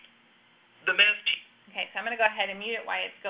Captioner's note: male Voice